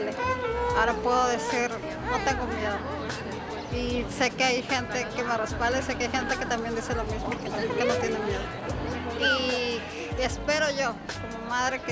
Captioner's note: foreign language 00:24:31